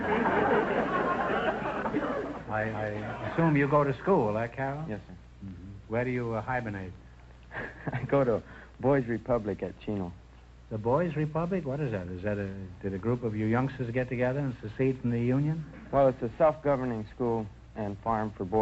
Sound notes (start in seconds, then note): 0.0 audience laughter; 7.5 chuckles